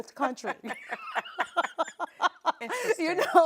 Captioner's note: both women laughing